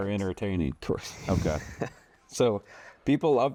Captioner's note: laughs